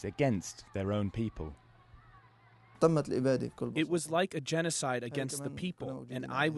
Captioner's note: through translator